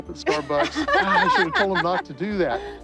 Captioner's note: laughter